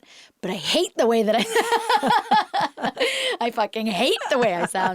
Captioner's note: laughs